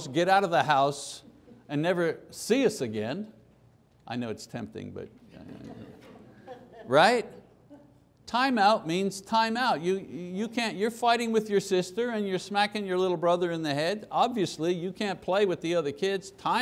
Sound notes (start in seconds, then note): 5.4 laughter